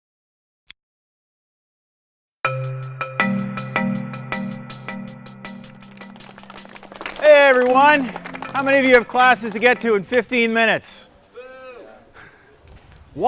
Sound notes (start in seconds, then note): 3.1 upbeat music; 5.6 students clapping